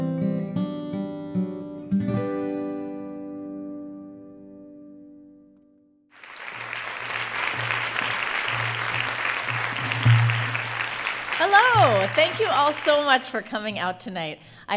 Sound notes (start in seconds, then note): 3.3 music fades; 6.1 applause